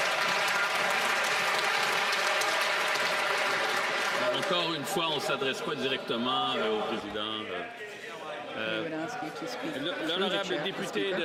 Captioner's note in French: applaudissements